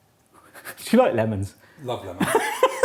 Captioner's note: chuckles